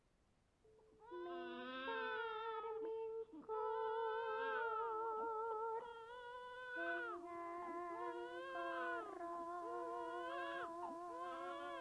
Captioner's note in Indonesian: Suara bayi menangis